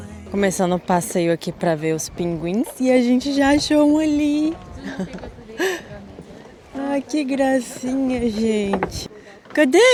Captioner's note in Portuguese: risadas